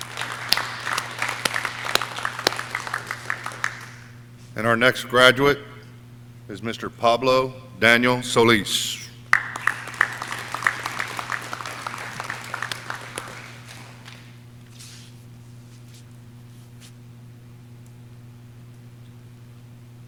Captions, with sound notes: (audience cheering) And our next graduate is Mr. Pablo Daniel Solis. (audience cheering)